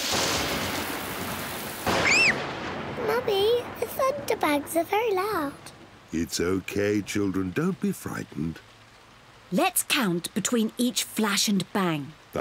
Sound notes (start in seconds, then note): 0.1 thunder rumbles; 1.9 screams